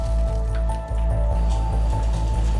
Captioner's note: frantic bootsteps; wall debris falling